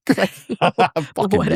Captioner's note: both laughing